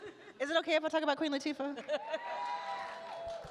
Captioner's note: attendees cheer